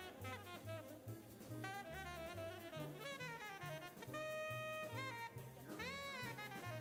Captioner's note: upbeat jazz music continues; people chattering